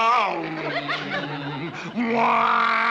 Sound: both humming

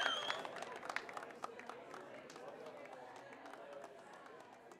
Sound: people chattering

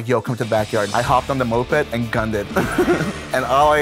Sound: laughs

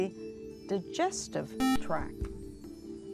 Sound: buzzer

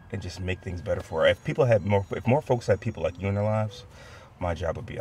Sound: none

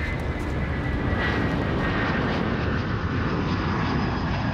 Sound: plane engine

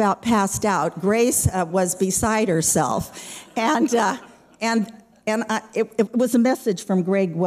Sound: laughter

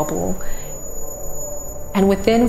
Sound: high pitched noise

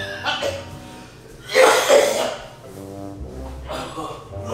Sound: coughing

